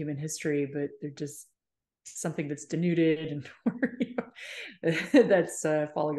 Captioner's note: chuckles